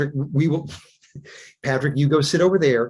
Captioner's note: chuckles